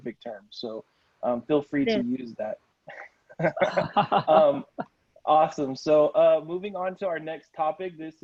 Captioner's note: laughter